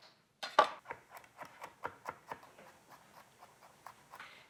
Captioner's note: knife chopping